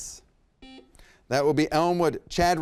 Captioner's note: buzzer beeps